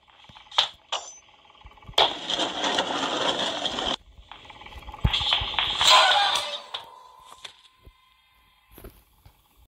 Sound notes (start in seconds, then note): 0.5 clunk, shelf rumbling; 5.8 screaming